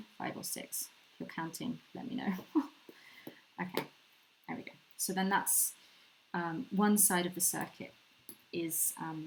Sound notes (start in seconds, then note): 2.7 laughs